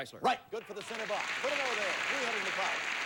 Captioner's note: audience applauding